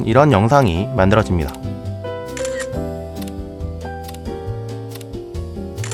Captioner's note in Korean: 찰칵